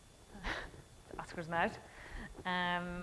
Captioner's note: laughing